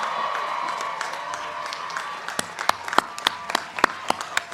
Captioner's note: crowd cheering